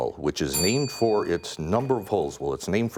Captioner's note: bell ringing